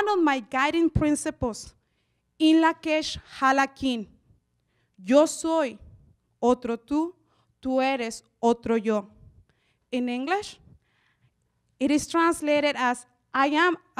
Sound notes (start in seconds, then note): 3.5 speaks in Spanish